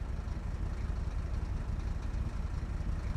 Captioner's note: car engine humming